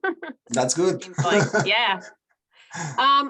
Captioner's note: laughs